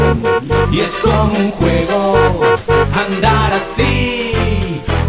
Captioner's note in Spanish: Sonido de Bocina